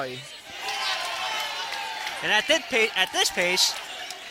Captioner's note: cheering